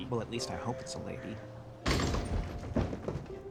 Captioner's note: door crashes open